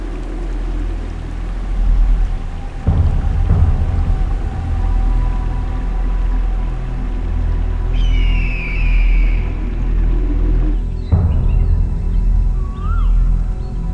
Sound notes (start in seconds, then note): 7.9 Hawk calling